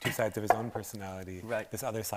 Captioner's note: chuckles